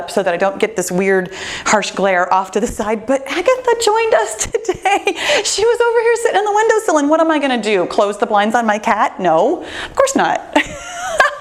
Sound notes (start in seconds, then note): 4.4 chuckles; 10.6 laughs